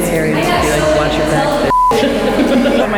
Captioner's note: beep